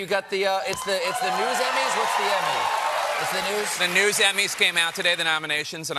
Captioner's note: cheers and applause